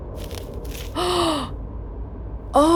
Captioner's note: gasp